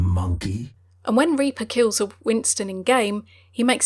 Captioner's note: voiceover